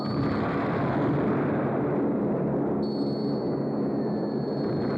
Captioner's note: bombs exploding